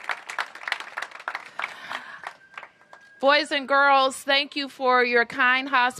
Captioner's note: cheers and applause